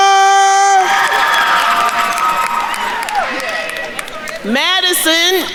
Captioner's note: attendees cheering and applauding